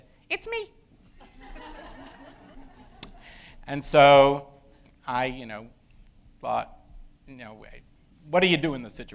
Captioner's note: high pitched voice